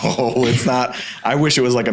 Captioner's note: laughing